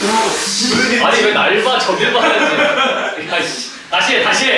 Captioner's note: fails to hold back laughter